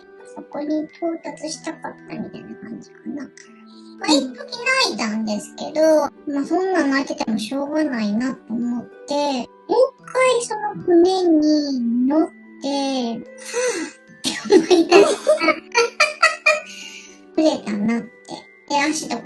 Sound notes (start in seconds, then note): 16.0 laughs